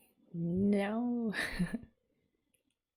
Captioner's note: laughs